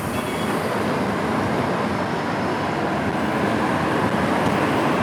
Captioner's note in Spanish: Tráfico vehicular